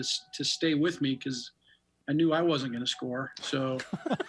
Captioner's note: laughing